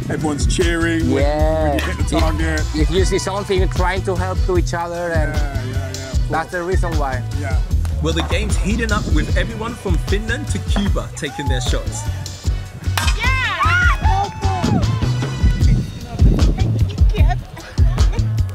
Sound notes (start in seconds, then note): 13.2 cheering